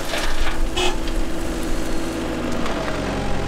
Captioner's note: horn